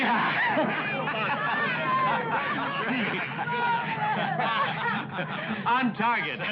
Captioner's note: cheering